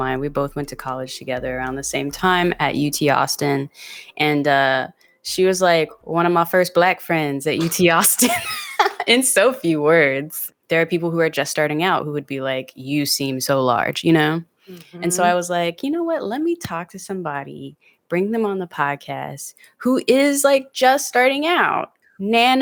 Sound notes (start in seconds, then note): 8.1 both laugh